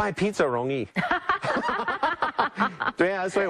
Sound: laughter

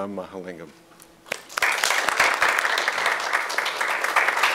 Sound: applause

